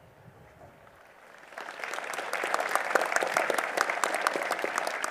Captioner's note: applause